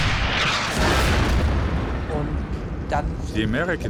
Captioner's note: tank turret firing; shell exploding